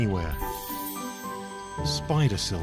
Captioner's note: chimes tinkling